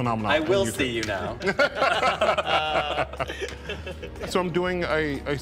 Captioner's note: all chuckling